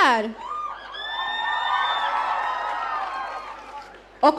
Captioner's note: audience cheering